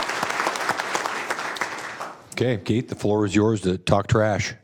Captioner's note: applause